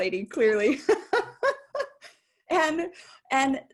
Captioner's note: laughing